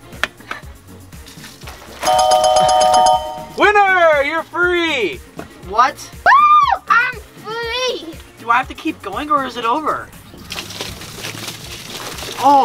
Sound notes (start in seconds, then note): 0.2 button clacking; 1.2 water splashing; 2.0 bell dinging; 10.1 water splashing; 12.4 groaning